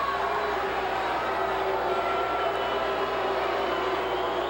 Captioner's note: audience booing